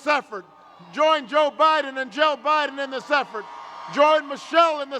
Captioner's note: cheers